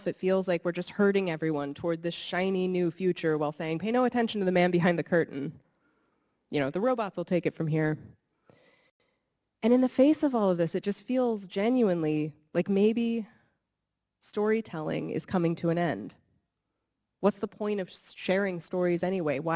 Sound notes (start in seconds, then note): none